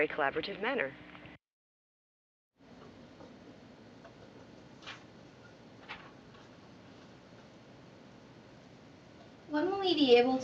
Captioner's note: silence